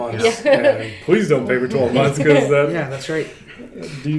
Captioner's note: laughs